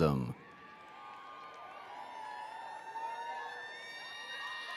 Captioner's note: attendees cheering